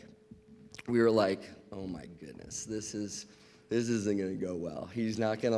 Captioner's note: none